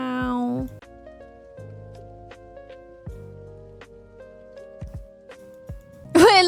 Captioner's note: laughs